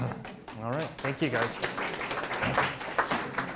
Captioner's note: audience applauds